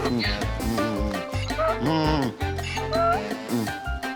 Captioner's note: Donkey's bray